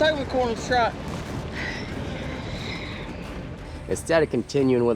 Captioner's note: hoof beats